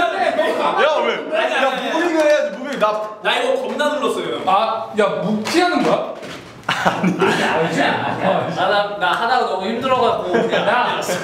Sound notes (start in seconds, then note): 6.6 laugh out loud